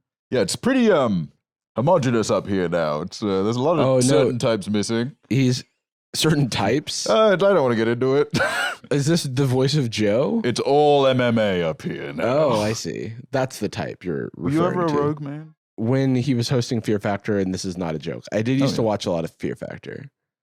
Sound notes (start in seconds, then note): 8.3 laughs